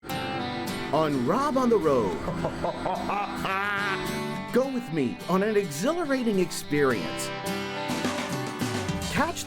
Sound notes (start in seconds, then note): 2.2 laughter